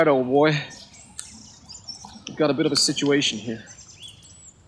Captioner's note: canteen rattling